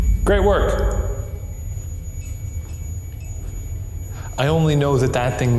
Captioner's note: spirit box chimes